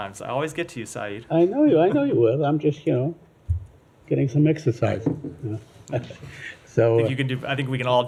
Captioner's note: laughter